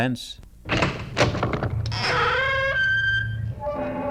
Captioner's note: door opens, creaks